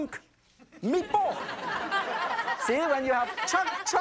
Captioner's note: audience laughs